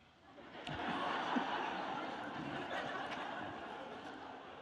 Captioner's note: audience laughing